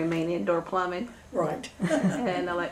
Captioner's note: laughter